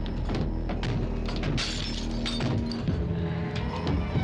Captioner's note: glass shattering; dramatic instrumental music